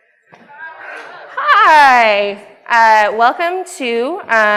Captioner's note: audience response